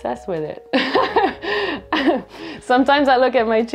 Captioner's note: laughter